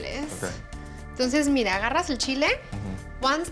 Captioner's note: speaking Spanish